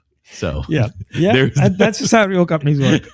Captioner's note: uh